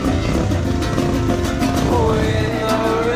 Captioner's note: driving guitar music; motorcycle engine revs